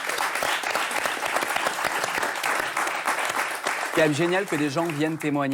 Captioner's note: applause